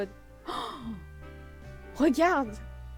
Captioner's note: gasp